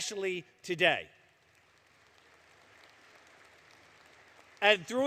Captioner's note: applause